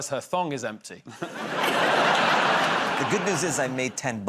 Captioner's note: laughter